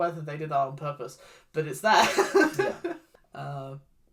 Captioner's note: laughs